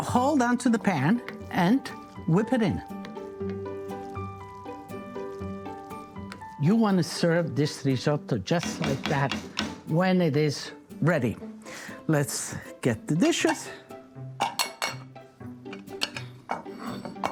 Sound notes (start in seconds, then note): 8.5 spoon bangs on pan; 14.4 dishes clinking